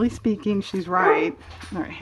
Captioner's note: dog barks